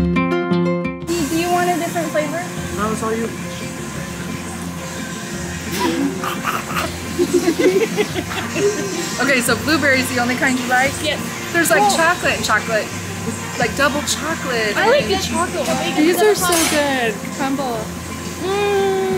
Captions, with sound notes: - Do you want a different flavor? - No, it's all you. (laughing) - Okay. So blueberry is the only kind you like? - Yes. - There's like chocolate and chocolate, like double chocolate. These are so good. Crumbles.